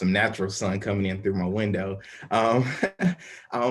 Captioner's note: chuckling